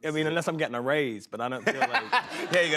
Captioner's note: laughter